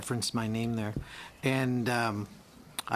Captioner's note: speaking in french